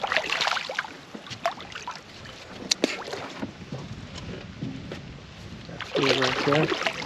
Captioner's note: fish splashing